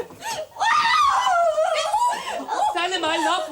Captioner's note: screams